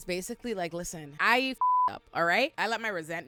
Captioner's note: beep